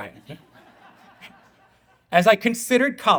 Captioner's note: audience laughing